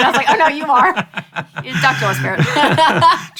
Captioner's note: laughing